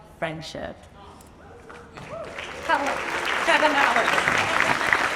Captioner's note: audience applauds and cheers; laughs